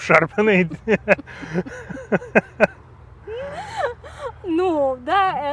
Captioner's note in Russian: оба смеются